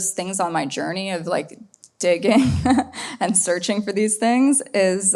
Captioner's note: laughs